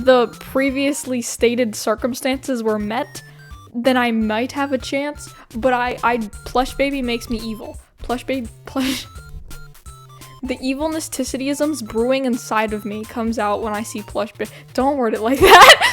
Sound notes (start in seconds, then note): 8.8 laughs